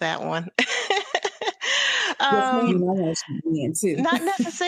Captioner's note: laughs